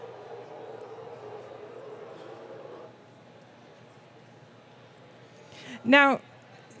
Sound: possibly a whistling sound???

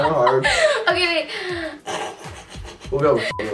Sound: laughs

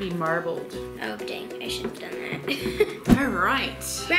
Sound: laughs

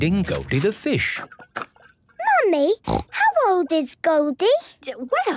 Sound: snorting

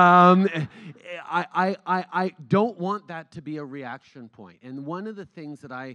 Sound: laughter

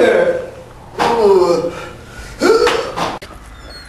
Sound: even more grunting

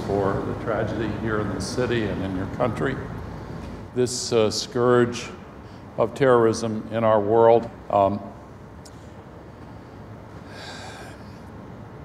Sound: sigh

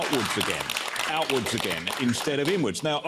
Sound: applause

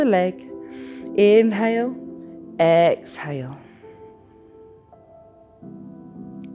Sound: inhales; exhales

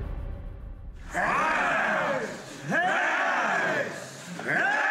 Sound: men chanting

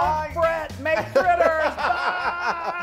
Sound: laughing

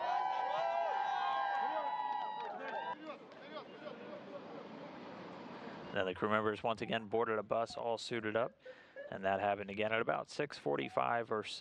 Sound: crowd cheering

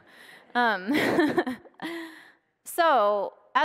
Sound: laughs

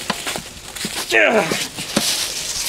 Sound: grunts

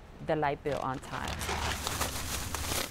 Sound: paper scrunching

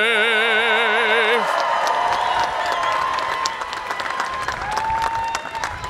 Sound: applause

